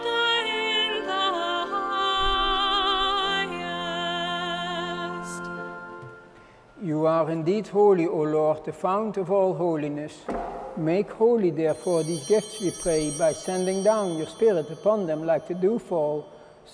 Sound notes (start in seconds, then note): 11.6 bells ringing